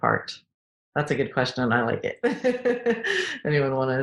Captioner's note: laughing